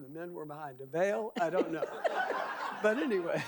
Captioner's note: audience laughing